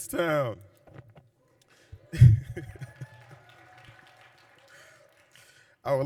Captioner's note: cheering and applause